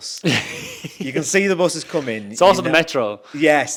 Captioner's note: laughs